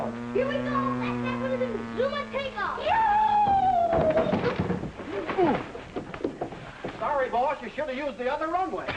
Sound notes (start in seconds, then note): 3.1 thumping